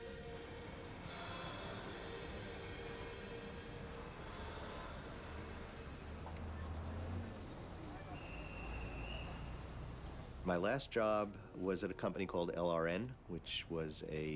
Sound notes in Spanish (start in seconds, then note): 4.4 bullicio de tránsito